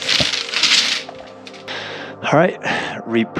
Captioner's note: pipe banging